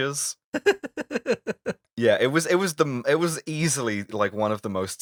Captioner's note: laughter